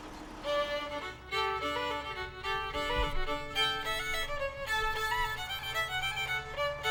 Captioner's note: tractor rumbles past; upbeat folk music